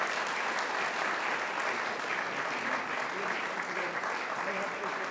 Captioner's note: audience applauds